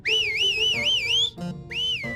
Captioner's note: whistles victoriously